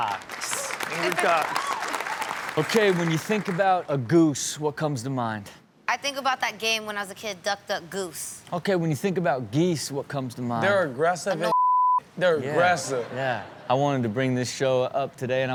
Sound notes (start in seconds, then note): 0.0 audience applauds; 11.5 beep; 12.7 audience laughs